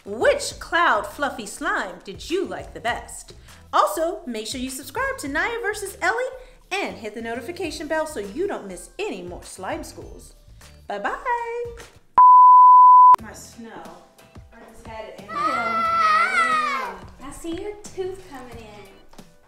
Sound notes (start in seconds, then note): 12.2 beeping; 15.3 screaming